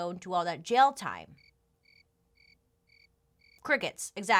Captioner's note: crickets chirping